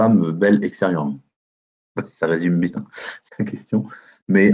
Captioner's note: chuckle